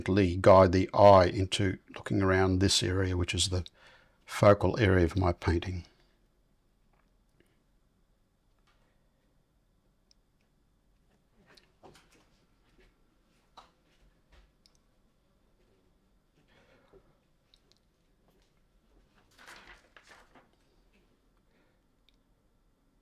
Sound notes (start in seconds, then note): 5.8 silence